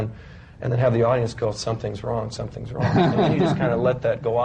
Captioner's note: laughter